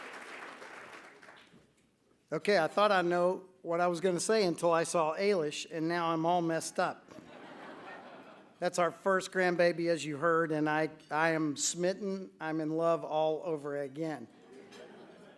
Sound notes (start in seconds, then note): 7.1 laughter